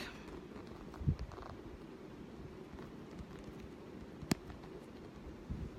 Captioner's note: camera adjusting